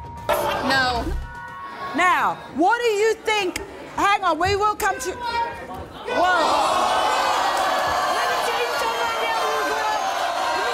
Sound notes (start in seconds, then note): 0.4 audience gasps; 6.0 audience boos